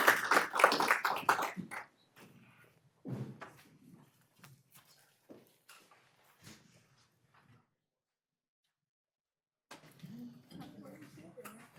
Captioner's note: applause